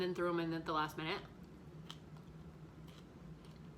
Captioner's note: chewing